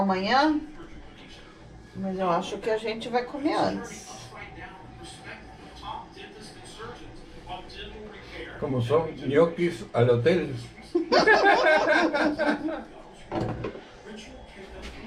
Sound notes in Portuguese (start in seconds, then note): 10.9 risos